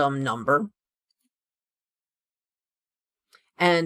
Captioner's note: no audio